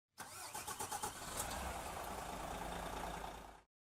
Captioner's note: engine starting